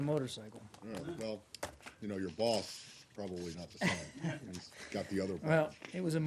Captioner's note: laughter